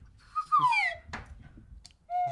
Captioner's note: slide whistle; more slide whistle